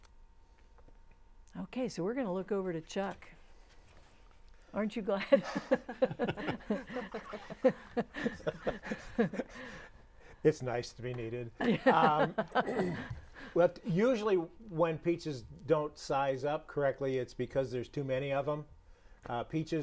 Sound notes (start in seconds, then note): 5.2 laughing; 11.6 laughing